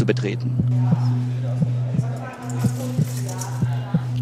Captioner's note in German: Töne des Herzklopfens